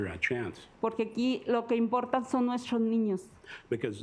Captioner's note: speaking Spanish